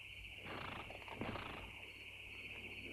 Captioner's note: horse snorts